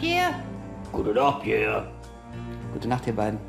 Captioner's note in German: mit hoher Stimme; mit tiefer Stimme